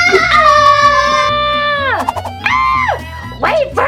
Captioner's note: girl screams; Catboy screams